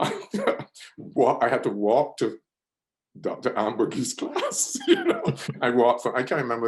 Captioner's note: laughs; laughs